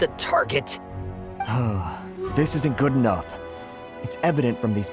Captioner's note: sigh